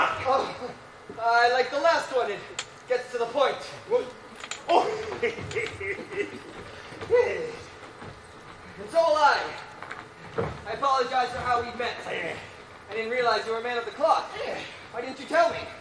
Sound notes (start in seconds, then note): 4.7 laughs